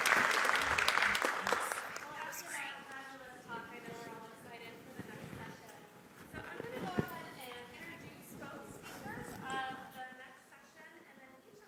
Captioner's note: applause